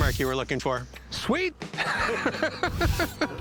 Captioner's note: laughs